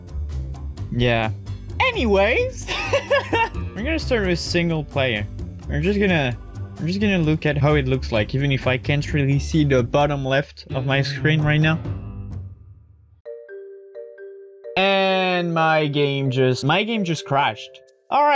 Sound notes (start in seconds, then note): 2.6 laughs